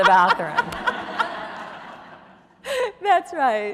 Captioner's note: audience laughing